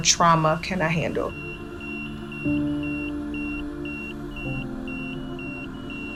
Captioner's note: patient monitor beeping